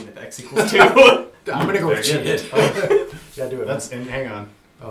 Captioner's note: laughs